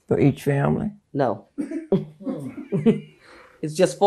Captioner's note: chuckling